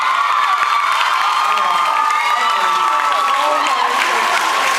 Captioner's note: cheers, applauds